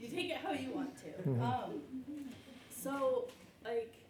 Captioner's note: chuckles